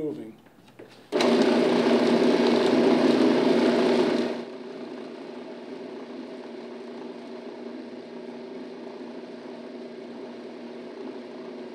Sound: robot coupe whirring

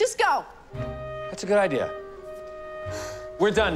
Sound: sighs

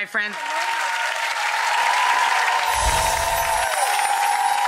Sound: audience applause

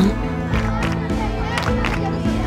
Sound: chanting

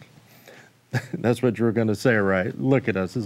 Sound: chuckles

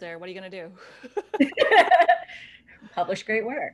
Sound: laughter

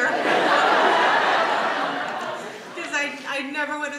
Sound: audience laughs

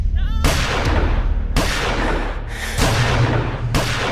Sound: gun firing; dramatic music

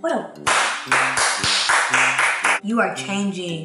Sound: claps

